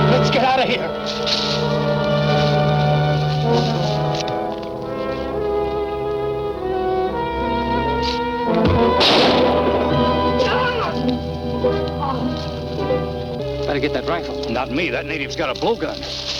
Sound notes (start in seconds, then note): 3.9 soft ominous music; 8.0 breath puffs; 8.6 gun fires; 10.4 man groans